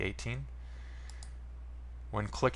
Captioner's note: mouse click